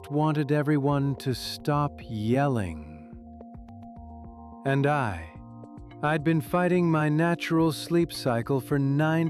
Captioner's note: dramatically